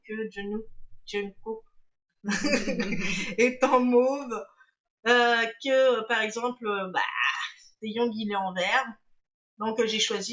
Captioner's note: laughs